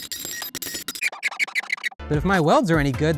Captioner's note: squeaking